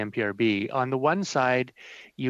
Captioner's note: speaking in French